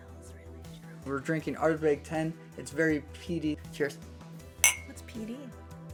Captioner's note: glasses clink